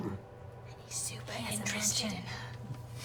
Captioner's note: whispers